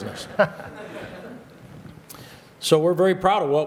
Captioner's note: laughter